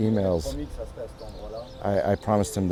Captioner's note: speaking foreign